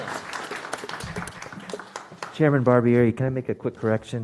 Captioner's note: applause